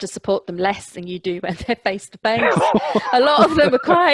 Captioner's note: laughter